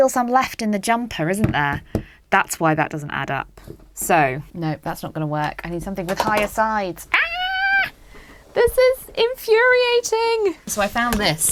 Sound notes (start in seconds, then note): 7.2 screams like a banshee